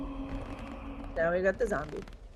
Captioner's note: zombie growling